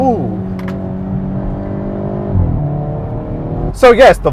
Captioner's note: car engine roaring